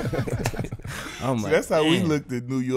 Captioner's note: everyone laughing